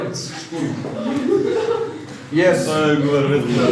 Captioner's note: laughing